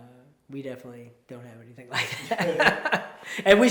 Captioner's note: laughs